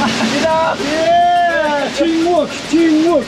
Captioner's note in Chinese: 歡呼聲